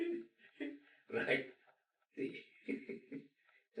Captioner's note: laughing